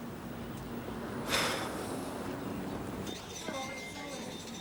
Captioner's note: Dave sighs; office workers chattering